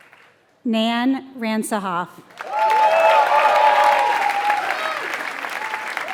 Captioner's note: applause